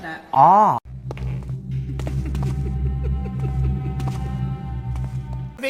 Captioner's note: ominous laughter